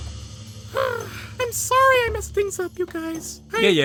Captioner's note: sighs